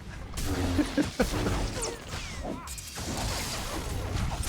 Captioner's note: laughs